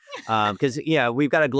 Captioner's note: laughs